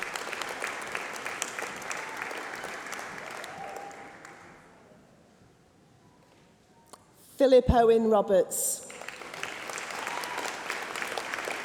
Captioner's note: applause